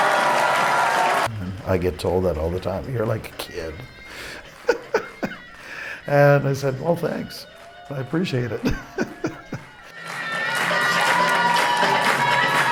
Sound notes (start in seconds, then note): 3.3 laughs; 8.4 laughs